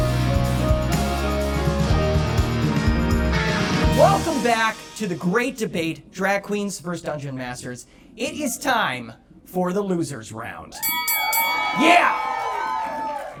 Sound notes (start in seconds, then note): 11.5 audience cheering